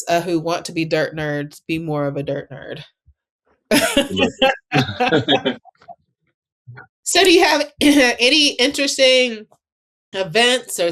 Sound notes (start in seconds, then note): 3.7 laughing